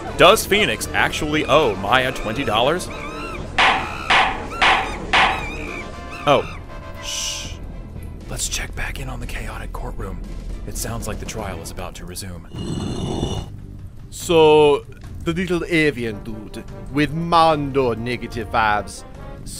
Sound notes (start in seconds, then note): 3.6 gavel clacking; 8.5 whispering